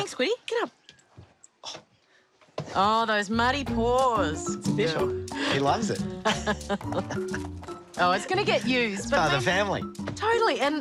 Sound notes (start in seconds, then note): 5.8 both laugh